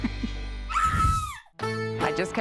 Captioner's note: scream